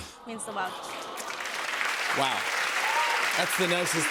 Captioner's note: applause